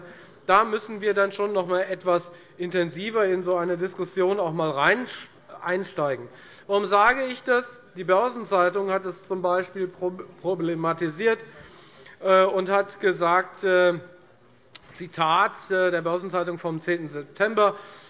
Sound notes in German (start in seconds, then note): none